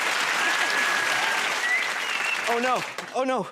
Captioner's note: whistles